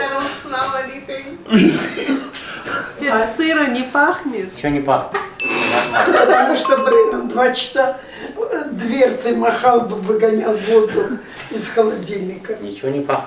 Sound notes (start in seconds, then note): 6.0 laughs